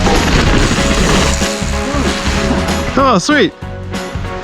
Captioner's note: bike wheels spinning